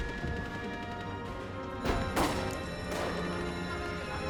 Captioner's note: gunfire continues